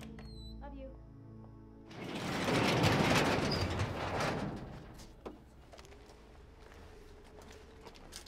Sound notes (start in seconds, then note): 1.8 garage door clangs